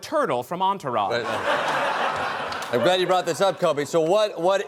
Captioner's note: laughter